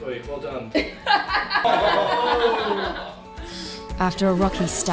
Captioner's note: people laughing